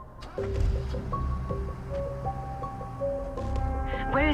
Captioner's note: engine revving